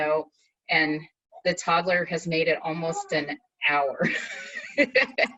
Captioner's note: laughs